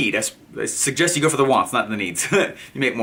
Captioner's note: none